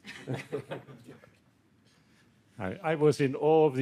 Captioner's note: everyone laughing